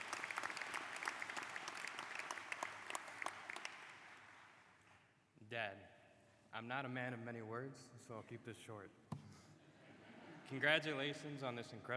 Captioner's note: applause